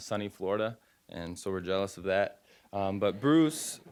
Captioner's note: audience chuckling